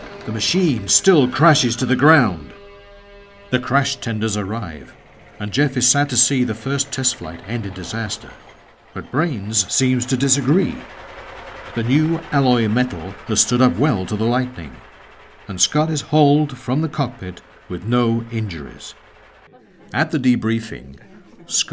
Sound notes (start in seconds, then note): 4.6 engine clattering; 19.4 people chattering